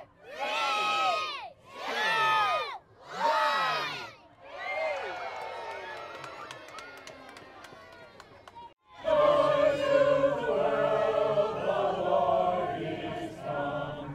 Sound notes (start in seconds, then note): 4.4 crowd cheers; 5.6 hands clap